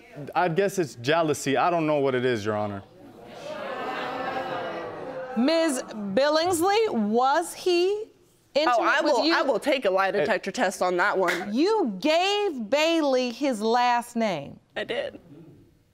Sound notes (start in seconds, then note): 3.1 audience exclaiming